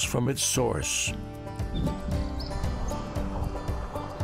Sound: birdsong

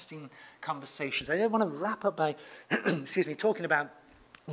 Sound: cough

